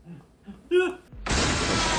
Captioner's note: screams; more screaming